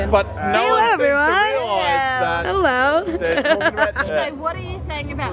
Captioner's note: people talking and laughing; voiceover